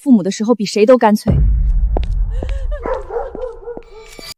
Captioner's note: sobs